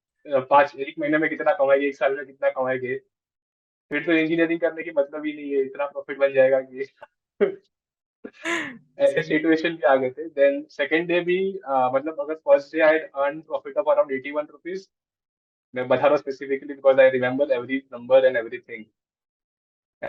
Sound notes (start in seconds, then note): 7.3 chuckles